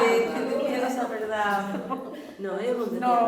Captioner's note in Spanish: risas